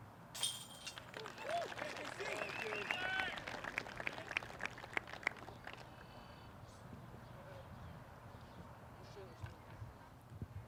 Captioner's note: cheering